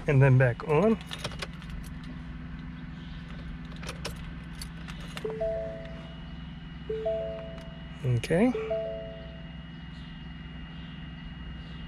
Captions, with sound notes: and then back on. (turning keys in the ignition) (car beeps) Okay.